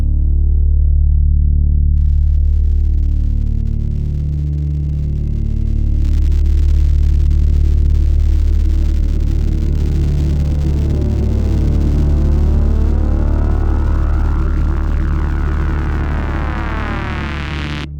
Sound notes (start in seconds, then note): 1.9 crackling noise; 9.9 music gets louder